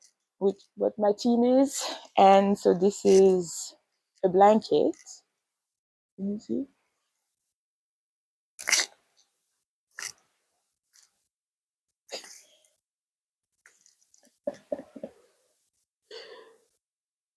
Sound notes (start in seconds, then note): 14.4 laughs